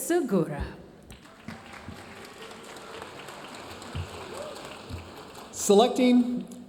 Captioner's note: audience cheering and applauding